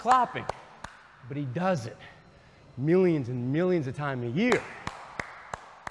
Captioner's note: claps